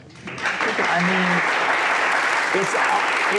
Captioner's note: audience applauds